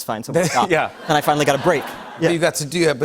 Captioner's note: laughter